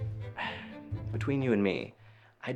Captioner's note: Oliver sighs